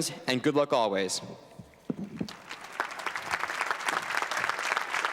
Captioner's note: applause